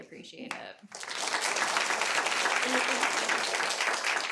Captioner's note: audience applauding